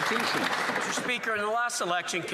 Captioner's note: applause